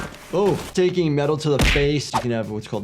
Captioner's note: fist pounding